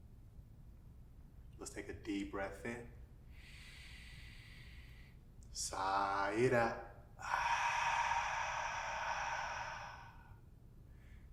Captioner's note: inward breath; outward breath